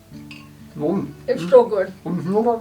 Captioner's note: happy sounds